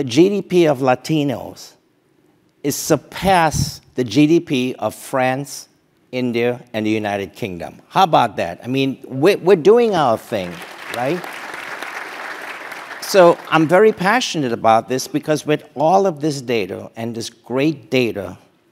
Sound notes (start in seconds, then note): 10.2 applause